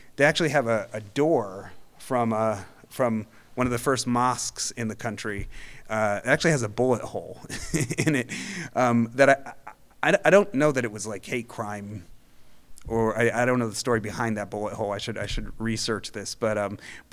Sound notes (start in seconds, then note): 7.5 laughing